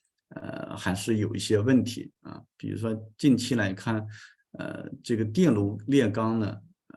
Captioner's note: continues to speak in Chinese